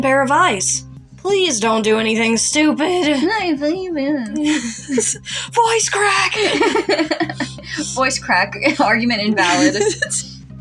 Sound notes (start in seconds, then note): 6.0 laugh; 6.3 giggle; 10.1 laugh